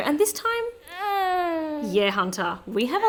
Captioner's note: baby cooing